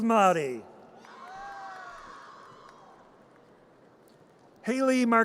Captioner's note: audience cheers